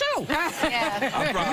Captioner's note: laughter